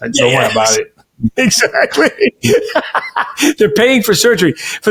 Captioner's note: laughing